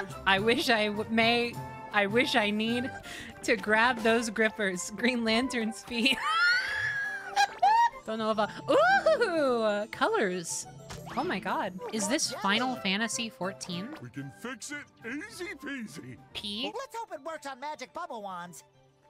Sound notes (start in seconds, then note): 7.3 wheeze